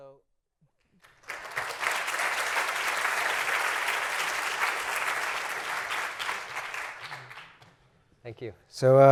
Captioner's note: applause